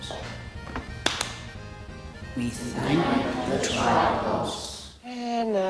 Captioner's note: claps hands